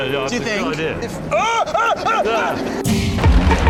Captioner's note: richard screams